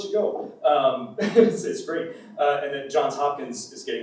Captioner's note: laughs